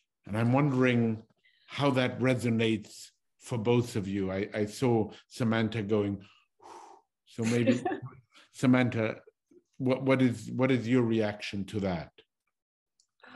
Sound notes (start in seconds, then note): 6.6 exhales